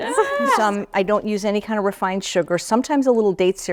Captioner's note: laughs